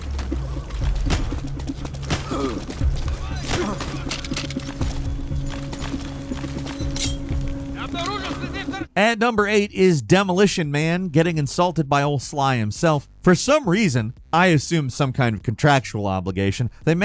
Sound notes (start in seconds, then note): 7.7 speaking in foreign language